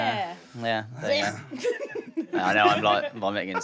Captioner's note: mock retching